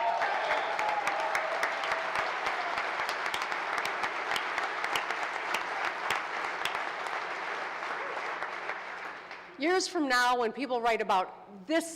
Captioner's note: applause